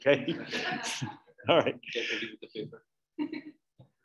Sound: audience laughing

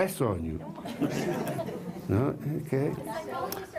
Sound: laughter

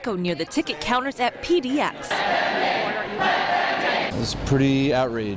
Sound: chanting

